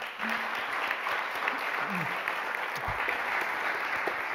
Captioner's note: applause